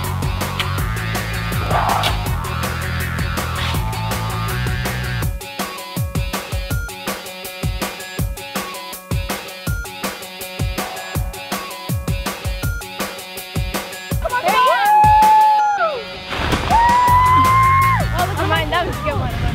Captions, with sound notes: - Come on Jordan. (cheering)